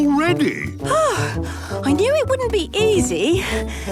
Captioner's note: panting